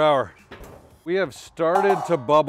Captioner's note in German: Deckel schlägt auf